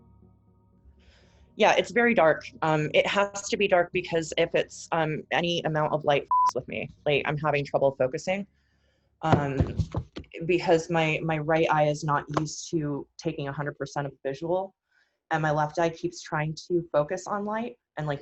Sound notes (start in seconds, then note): 6.2 beep